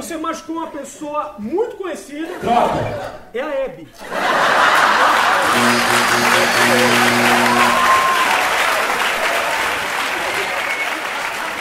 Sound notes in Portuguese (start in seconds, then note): 4.7 campainha e aplausos